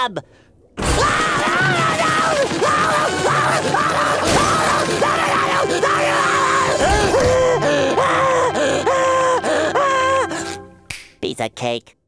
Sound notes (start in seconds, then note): 0.8 screaming; 6.6 panting; 10.9 snapping